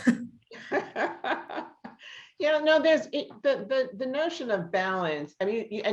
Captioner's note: laughs